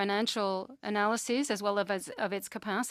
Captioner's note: speaking French